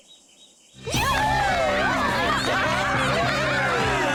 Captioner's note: cheering